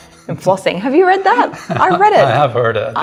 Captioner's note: laughing